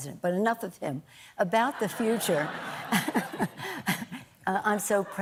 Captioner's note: laughter